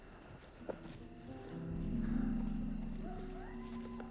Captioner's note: crickets chirping